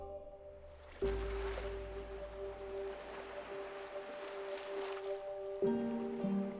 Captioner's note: light music; water sloshing